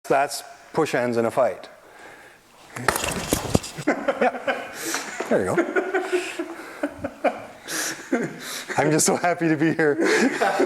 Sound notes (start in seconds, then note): 5.5 group laughter; 10.0 group laughter